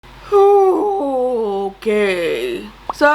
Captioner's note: sighs